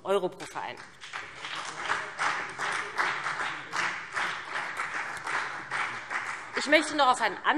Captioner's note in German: Beifall BÜNDNIS 90/DIE GRÜNEN und CDU